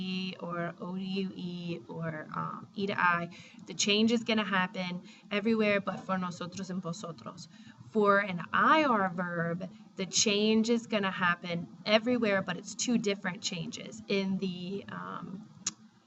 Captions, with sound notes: e to ie or oue or e to i, the change is going to happen everywhere but for [spanish] and [spanish]. For an ir verb, the change is going to happen everywhere, but it's two different changes.